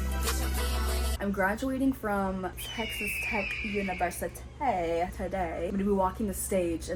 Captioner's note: eagle screech sound effect